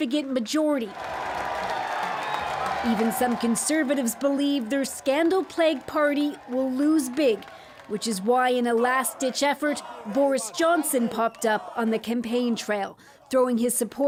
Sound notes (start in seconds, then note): 2.4 cheers and Applause